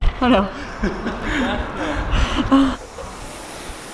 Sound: laughing

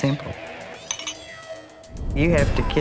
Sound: glasses clinking

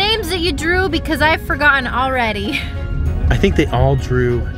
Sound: laughs

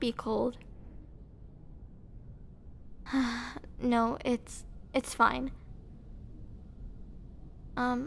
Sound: sigh

